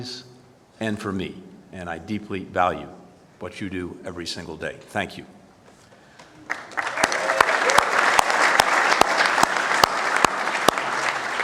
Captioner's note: applause